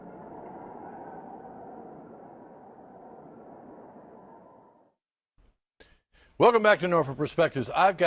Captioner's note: wind blowing